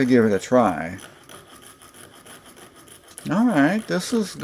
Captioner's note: sawing sounds